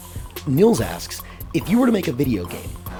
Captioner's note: voiceover